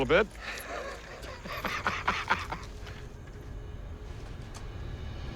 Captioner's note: laughs